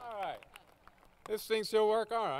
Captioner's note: applause